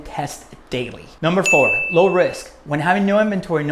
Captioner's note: bell